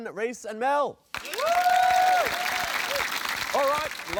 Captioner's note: cheering, applause